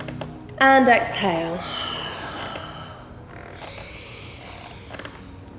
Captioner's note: heavy breathing